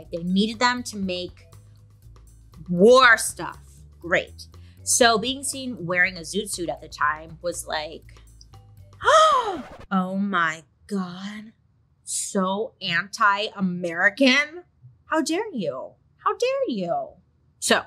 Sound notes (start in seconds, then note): 8.7 gasps; 9.2 record scratches